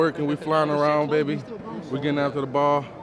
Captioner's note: group chattering